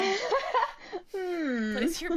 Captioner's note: laughs